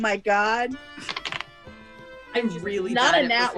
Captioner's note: dice rolls